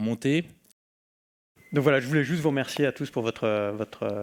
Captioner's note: speaking french